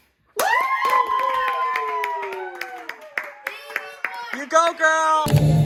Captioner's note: celebratory Whoo's!